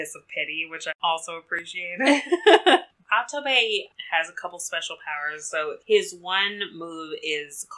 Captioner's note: laughs